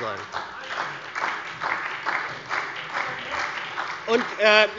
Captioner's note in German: Beifall bei der SPD